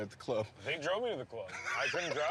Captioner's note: laughing